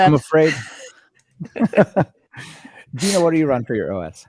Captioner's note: laughing